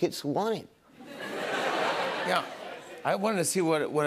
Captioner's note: laughter